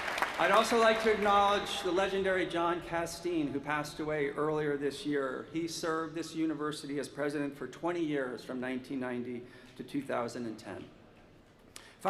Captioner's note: applause